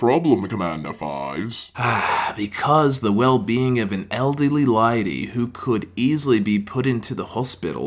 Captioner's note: deep Breath